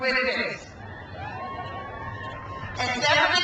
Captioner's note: crowd cheers